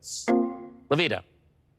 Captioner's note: electric chime